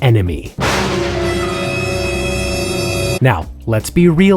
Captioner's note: dramatic music; lightning crashing